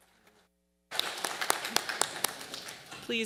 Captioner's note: audience applauds